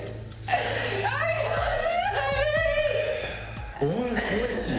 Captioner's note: Mia crying